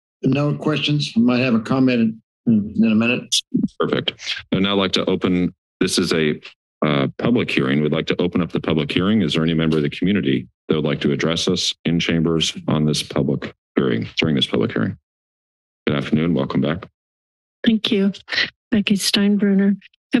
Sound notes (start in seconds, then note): 15.0 silence